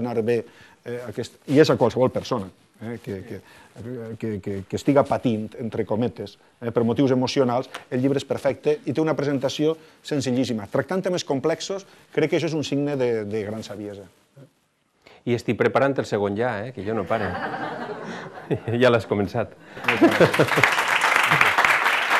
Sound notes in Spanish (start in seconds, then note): 16.9 risas; 19.8 aplausos